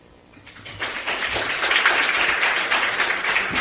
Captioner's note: applause